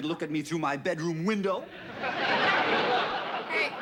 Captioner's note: laughter